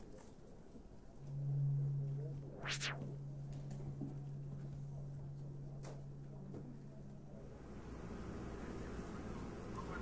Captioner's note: computer humming